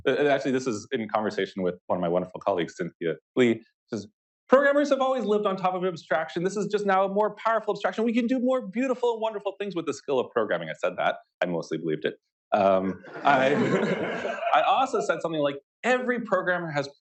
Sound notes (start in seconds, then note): 13.0 laughter